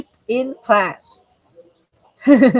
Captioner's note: chuckles